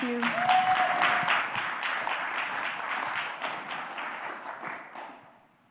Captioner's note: applause